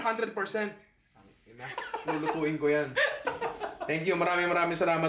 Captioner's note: laughs